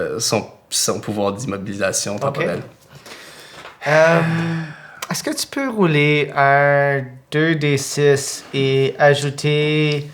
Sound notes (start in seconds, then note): 3.2 Hugo sighs